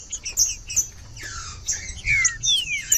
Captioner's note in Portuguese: trinca ferro cantando